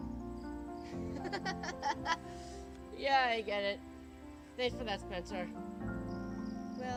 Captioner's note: laughs